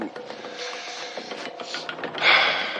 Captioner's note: sighs